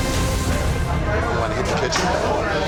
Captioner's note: dramatic instrumental music; bar chatter